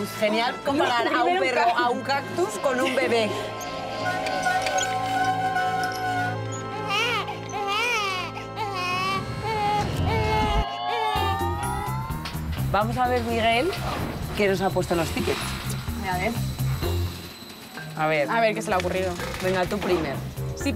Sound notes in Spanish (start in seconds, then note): 6.9 Bebé llorando